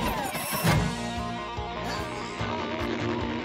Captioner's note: grunts of effort